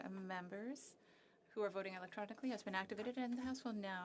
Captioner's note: speaking French